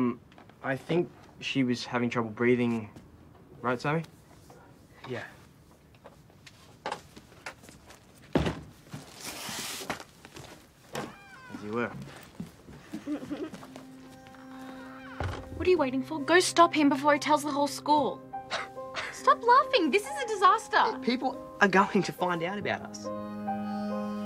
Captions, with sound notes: Um, I think she was having trouble breathing. Right, Sammy? Yeah. -As you were. -[Scout giggles] What are you waiting for? Stop him before he tells the whole school. -[laughs] -Stop laughing! This is a disaster. People are going to find out about us.